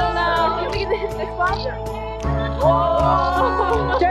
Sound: laughter, shutter clicks

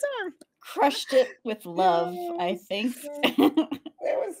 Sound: laughs; laughs

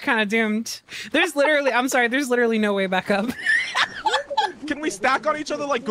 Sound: laughs

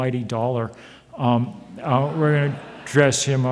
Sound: audience laughs

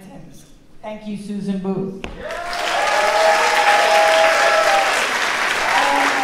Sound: audience clapping

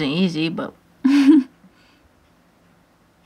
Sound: laughs

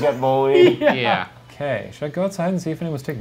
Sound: laughs

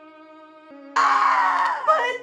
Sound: screams

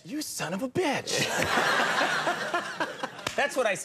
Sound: audience laughing

